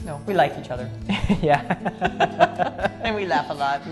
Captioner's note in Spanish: ambos ríen